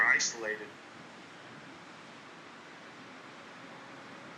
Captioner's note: wind